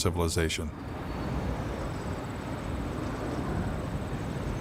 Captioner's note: wind blowing